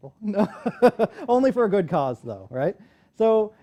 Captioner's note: laughter